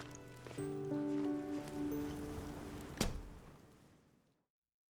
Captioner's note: sliding door closing